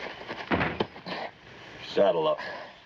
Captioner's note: thudding